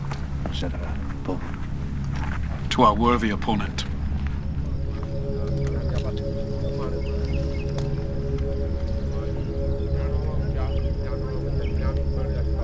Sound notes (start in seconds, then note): 5.2 suspenseful music; 7.2 indians chattering